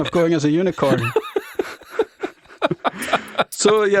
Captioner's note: both speakers lauging